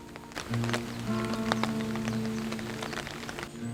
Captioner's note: skin cracking